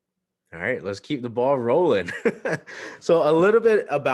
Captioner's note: laughs